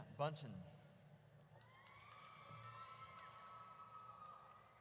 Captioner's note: audience cheers